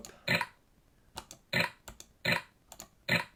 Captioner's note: clicking